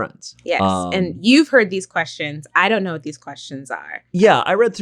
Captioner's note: none